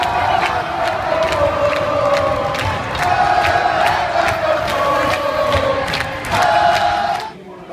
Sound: chanting

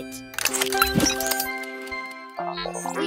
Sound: clicking and beeping

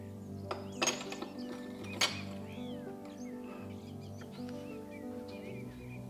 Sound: tea cup clinks on plate

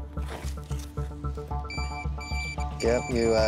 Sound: beeping

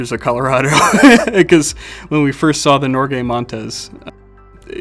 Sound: laughs

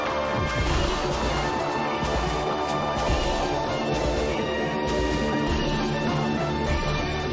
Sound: intense keyboard pressing

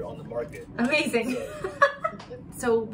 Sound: laughing

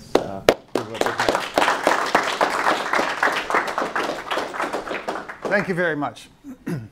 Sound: applause drowns out dialog

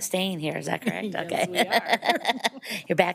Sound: laughs

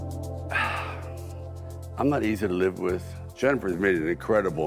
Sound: sighing

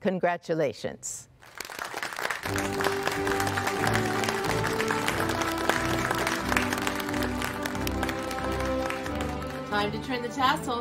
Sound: applause

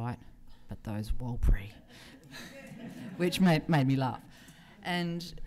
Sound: laughter

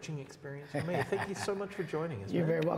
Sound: laughs

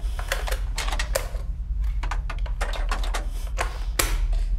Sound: Sarah breathes heavily

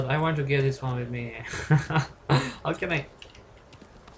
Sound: laugh

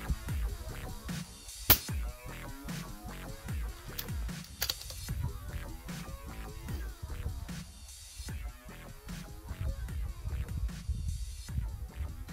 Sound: gun Shots

